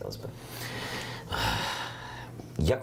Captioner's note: sighs